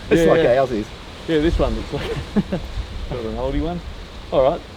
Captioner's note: laughs